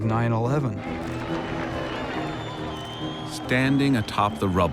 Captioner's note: crowd cheering